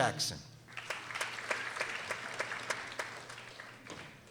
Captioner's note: people applauding